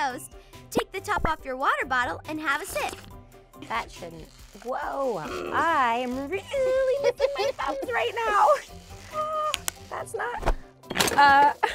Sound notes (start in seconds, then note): 8.2 laughs